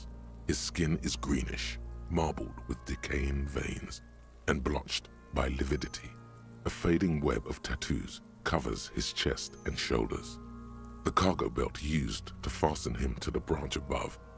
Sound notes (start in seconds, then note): none